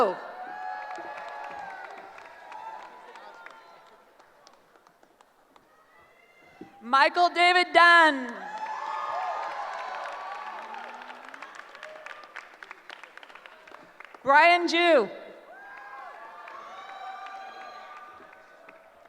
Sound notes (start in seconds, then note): 0.1 cheering; 8.3 cheering; 15.4 cheering